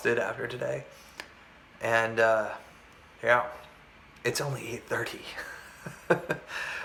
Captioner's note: laughs